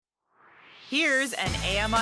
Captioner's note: swoosh